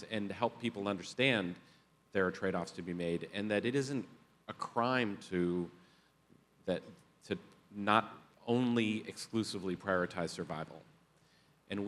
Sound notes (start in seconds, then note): none